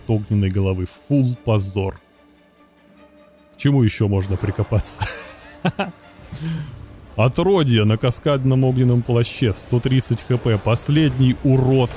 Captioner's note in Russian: смех